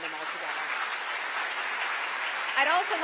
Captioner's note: applause